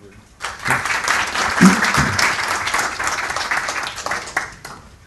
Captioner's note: applause